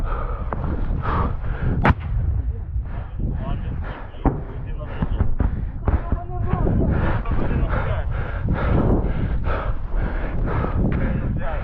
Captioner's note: panting